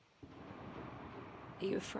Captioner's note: thunder rumbles